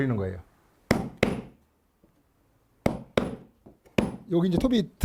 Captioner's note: hammering sound